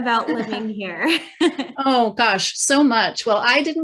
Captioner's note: chuckling